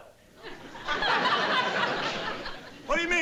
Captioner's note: audience laughing